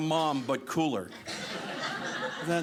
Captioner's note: audience laughing